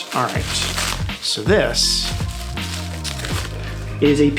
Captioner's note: plastic rustling